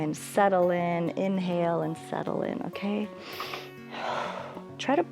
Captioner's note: inhales and exhales